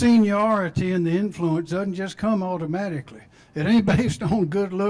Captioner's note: laughter